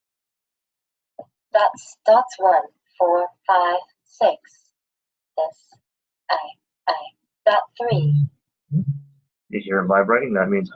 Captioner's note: device making noise